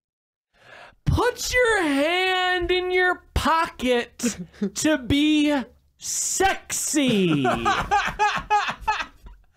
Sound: laughs

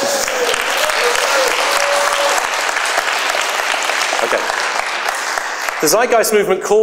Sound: applause

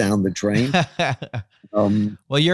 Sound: laughs

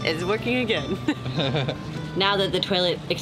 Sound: both laughing

